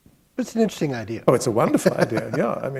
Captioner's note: chuckle